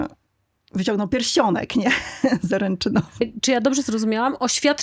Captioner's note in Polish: śmiech